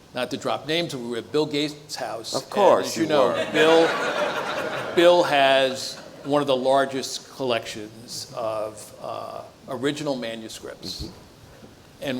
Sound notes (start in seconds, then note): 2.9 audience laughs